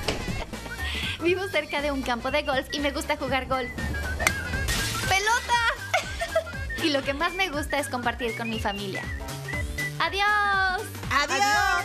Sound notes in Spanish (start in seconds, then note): 4.3 sonido de vidrios rotos